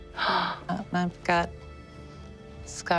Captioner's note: gasps